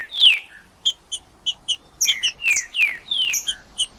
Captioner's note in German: trinca ferro cantando